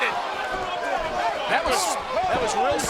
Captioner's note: wrestlers chattering